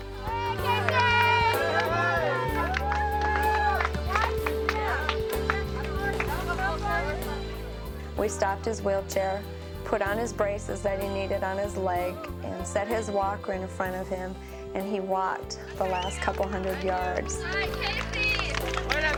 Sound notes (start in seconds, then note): 0.1 soft upbeat music; 2.1 crowd cheering